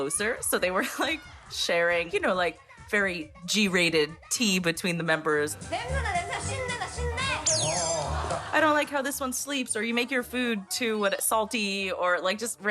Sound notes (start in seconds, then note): 6.9 speaking Korean